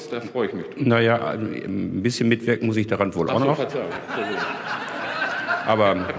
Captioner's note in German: Gelächter